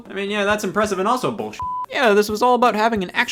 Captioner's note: beep